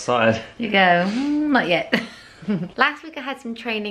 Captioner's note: laughs